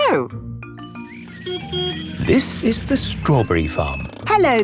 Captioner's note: beeps